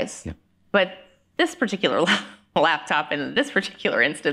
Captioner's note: laughing